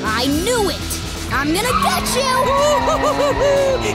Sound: drum roll; tires screeching; engine revving

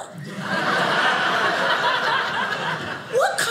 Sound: audience laughing

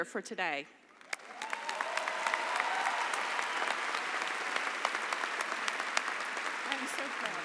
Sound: cheering and applause

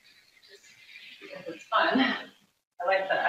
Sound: laughs

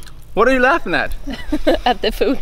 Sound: laughs

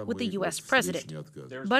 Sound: speaking alternate language

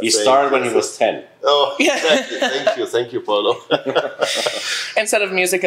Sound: laughs

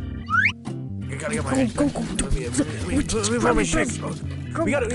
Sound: slide whistle noise; bags rustling

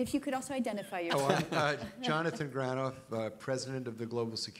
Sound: laughing

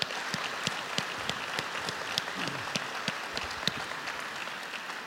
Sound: applause

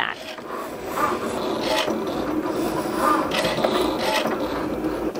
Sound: machine buzzing

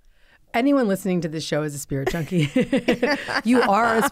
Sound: laughs

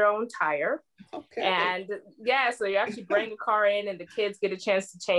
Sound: laughter

